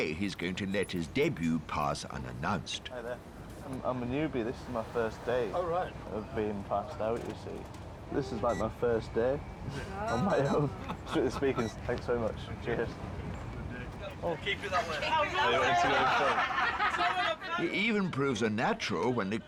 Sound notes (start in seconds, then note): 15.6 everyone laughing